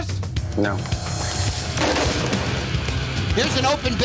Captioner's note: clatter